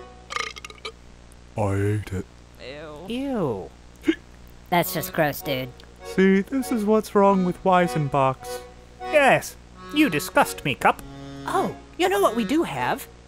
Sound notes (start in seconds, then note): 0.3 burps; 4.0 hiccups